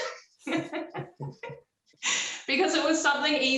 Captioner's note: laughs